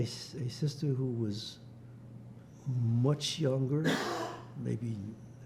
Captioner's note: coughing